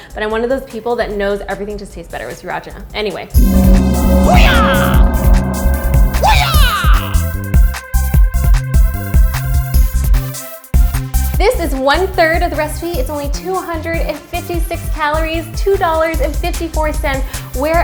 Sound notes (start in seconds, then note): 4.9 gong And Karate Sound Effects